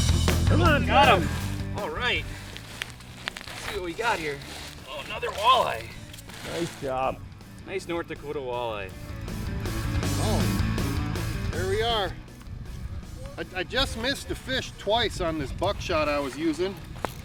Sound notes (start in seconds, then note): 0.0 rock music; 6.6 voiceover; 9.4 rock music